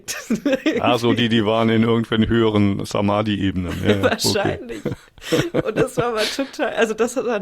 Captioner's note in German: gelächter; gelächter